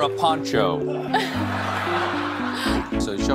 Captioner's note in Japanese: 群衆はまた笑う